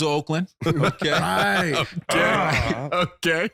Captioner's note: laughing